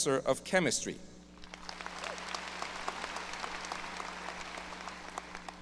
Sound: audience applause

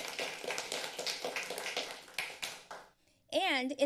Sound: applause

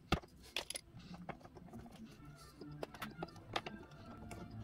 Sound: tools sounds

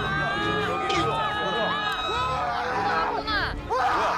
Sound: people start to scream

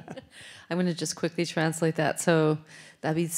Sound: laughs

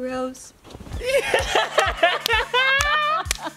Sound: laughing

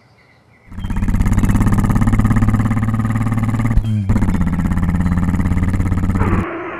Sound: motor grumbling; skid

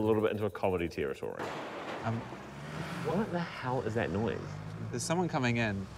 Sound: clattering, vehicle approaches

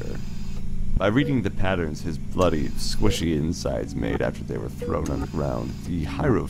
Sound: mechanical ambiance

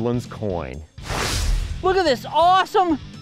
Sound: whooshing

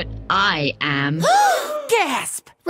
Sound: gasp

